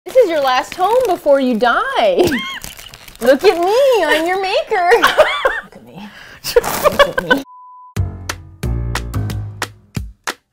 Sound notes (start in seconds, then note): 0.1 cheerfully; 2.1 laughs; 3.2 cheerfully; 4.7 laughs; 8.0 funky Bass Music